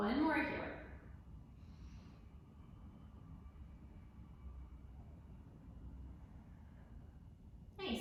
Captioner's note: deep breath